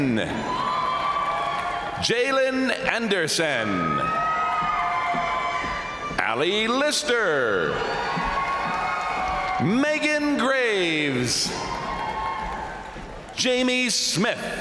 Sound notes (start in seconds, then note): 0.1 crowd applauding; 0.1 crowd cheering; 3.6 crowd applauding; 3.6 crowd cheering; 7.2 crowd applauding; 7.2 crowd cheering; 11.4 crowd cheering; 14.3 crowd applauding; 14.3 crowd cheering